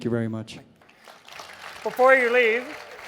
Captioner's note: crowd cheers